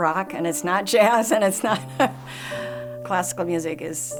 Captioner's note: laughing